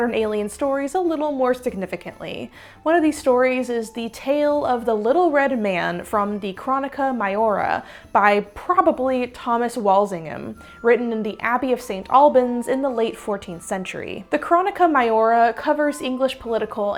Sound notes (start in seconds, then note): none